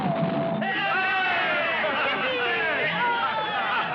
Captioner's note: cheering